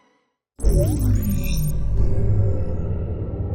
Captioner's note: dramatic intro sound